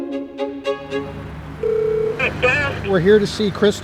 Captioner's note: bell rings